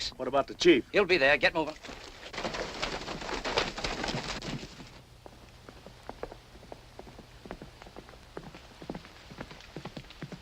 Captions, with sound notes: - What about the chief? - He'll be there, get over! [ HORSE TROTTING ]